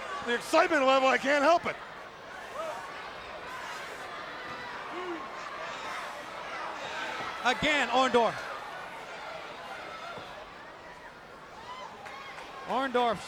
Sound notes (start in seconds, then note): 4.7 referee shouting